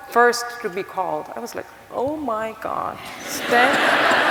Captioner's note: laughter